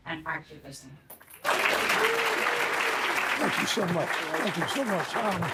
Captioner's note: audience clapping